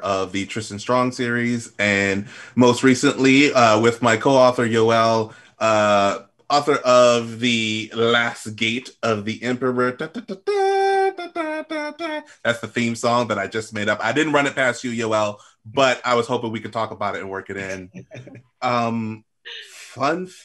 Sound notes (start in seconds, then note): 9.9 hums tune